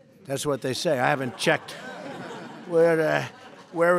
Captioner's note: laughter